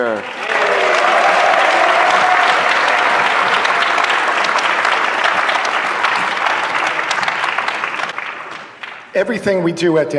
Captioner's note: applause